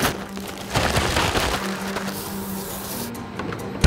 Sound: rustling

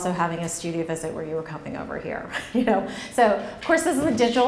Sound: laughs

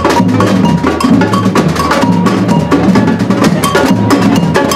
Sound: drums and cheering

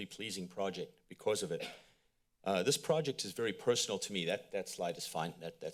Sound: coughs

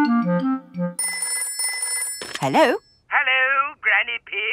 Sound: telephone ringing

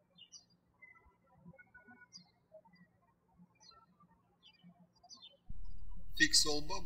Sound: birds chirping

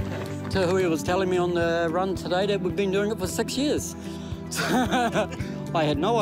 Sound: laughs

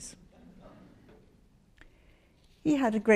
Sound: audience laughs

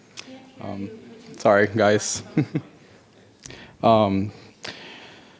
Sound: chuckles

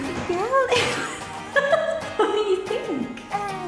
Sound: laughter

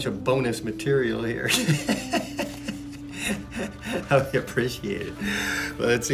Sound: laughs

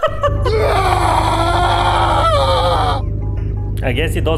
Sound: shitty scream sound

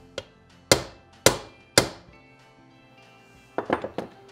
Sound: hammer tapping

